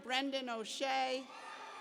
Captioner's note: cheers